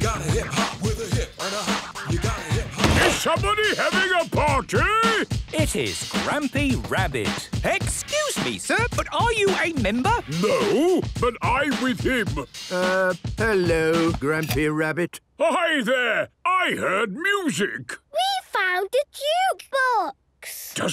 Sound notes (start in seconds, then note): 2.9 shouts; 14.3 hip hop music ends